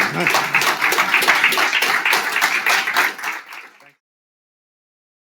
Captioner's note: audience applauding